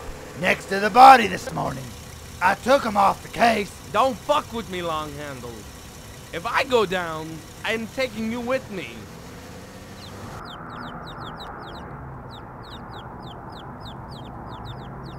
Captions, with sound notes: next to the body this morning. I took them off the case. Don't fuck with me Long Handle. If I go down... I am taking you with me. ( Birds chirping )